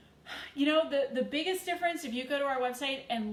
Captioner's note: sighs